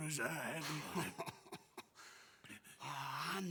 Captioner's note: laugh